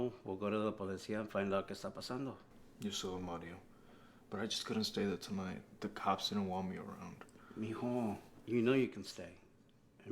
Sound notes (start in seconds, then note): 0.7 Spanish; 7.5 Spanish